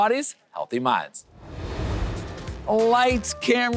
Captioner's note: air whooshing